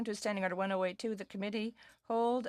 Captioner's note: speaking French